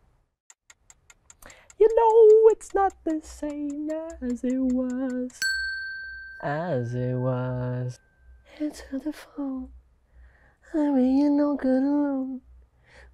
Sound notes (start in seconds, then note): 5.4 bell dings